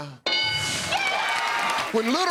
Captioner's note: cheers and applause